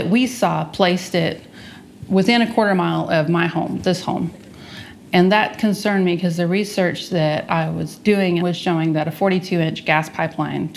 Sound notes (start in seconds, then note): none